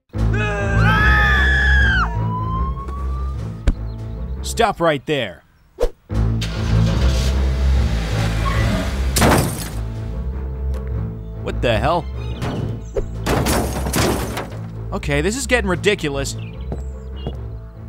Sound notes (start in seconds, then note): 0.3 people screaming; 0.7 siren blaring; 9.2 Peeley thuds